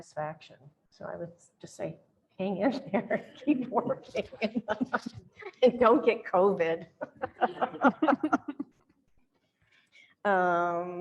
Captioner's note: chuckles